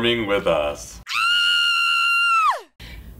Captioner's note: scream